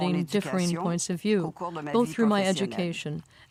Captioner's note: speaking French